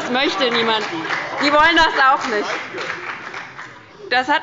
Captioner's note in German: Heiterkeit, Beifall und Zurufe